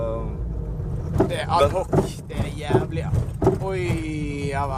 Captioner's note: the car making a strange sound